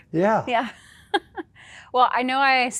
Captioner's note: laughing